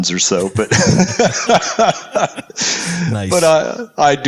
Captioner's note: laugh